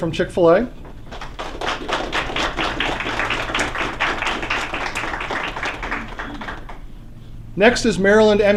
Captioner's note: applause